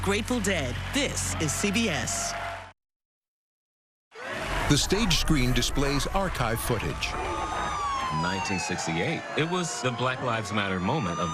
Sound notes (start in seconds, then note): 5.9 siren wailing; 7.0 crowd chanting